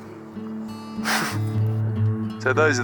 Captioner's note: laughing